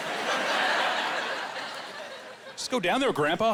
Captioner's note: laughing